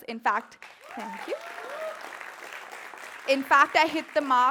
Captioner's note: applauds